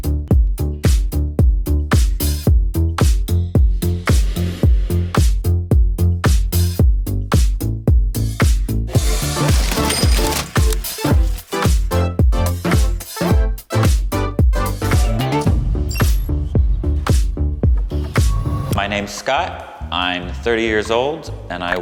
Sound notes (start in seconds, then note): 0.0 upbeat electronic music; 9.0 change clattering